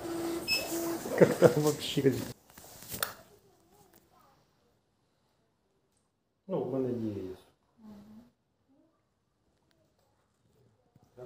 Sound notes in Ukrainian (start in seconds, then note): 5.5 смех